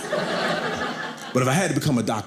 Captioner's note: audience laughing